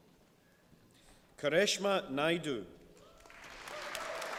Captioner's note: applause